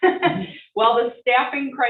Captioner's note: chuckling